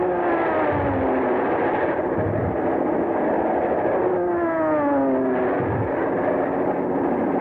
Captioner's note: airplane engines roaring; explosions rumbling